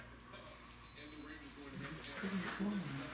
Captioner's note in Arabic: التصفير